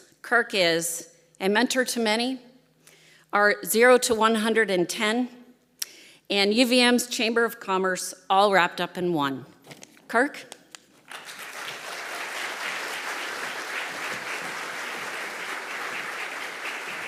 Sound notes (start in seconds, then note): 11.0 audience applauding